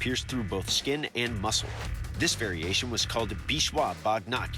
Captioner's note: non-english speech